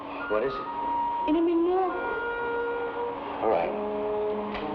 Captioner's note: woman speaking in Tagalog